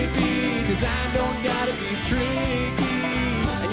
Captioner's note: none